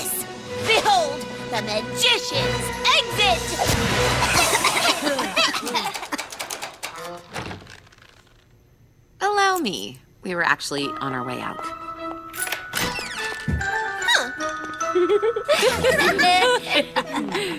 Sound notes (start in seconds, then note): 3.3 whooshes; 4.1 all coughing; 5.6 doorknob rattling; 14.9 laughter